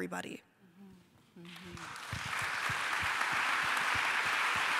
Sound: applause

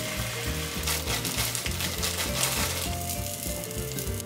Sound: crispy sounds

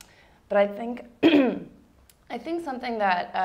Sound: clears throat

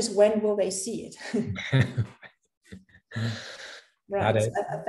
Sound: chuckles

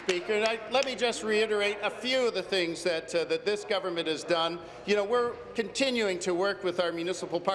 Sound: applause

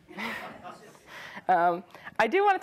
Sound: audience laughs

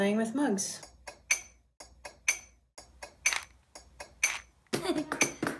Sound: rhythmic tapping

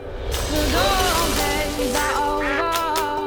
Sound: gasps; quacking

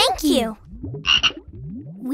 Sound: croaking

